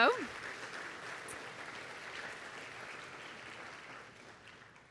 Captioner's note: audience applauding